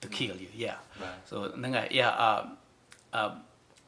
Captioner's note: in Khmer